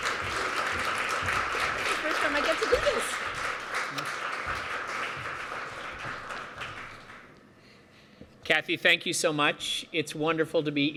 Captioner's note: applause